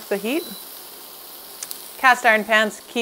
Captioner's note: hot plate beeps